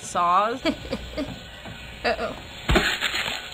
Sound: chuckles fiendishly

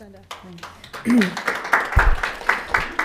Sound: audience applauding

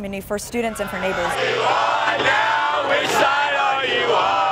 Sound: crowd

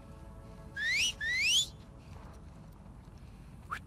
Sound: alert Whistles!; hushed whistle

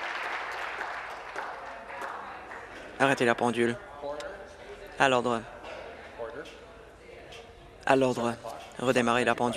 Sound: applause

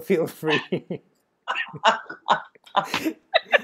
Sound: laughing

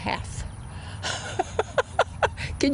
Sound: laughs

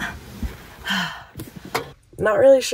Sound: sighs

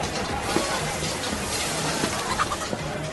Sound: diner background noise; electronic music plays; door closes

